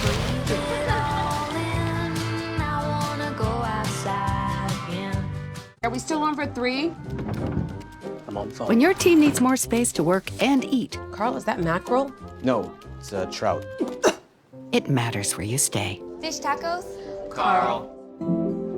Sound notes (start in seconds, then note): 13.8 gags